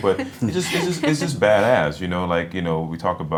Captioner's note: laughing